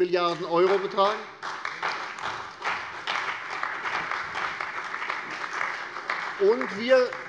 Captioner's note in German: Beifall bei der CDU und dem BÜNDNIS 90/DIE GRÜNEN